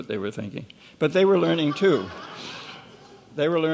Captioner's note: laughing